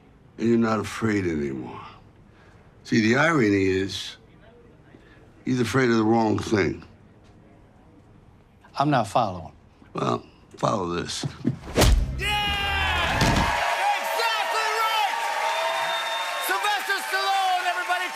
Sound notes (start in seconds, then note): 12.2 cheering and applause; 13.0 thud; 15.5 whistling